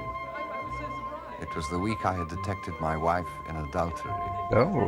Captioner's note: none